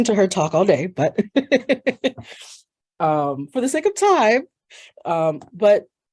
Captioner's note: laughs